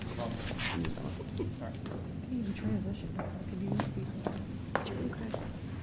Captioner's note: audience talks among themselves